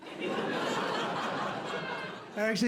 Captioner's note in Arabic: ضحك